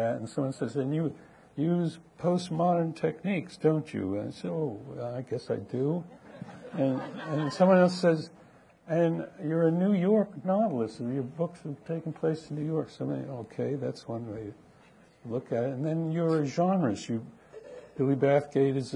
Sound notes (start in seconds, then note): 6.2 audience laughing